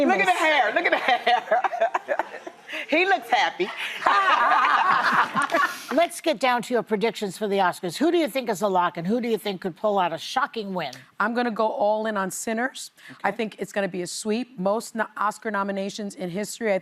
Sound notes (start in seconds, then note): 2.5 laughing; 4.0 laughing